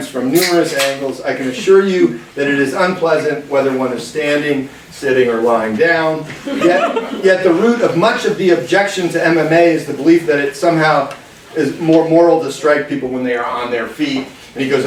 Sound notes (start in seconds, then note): 6.3 class laughing